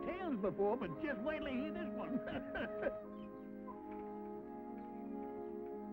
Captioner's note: laughs